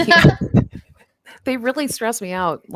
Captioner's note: laughs